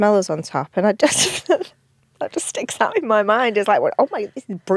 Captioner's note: laughs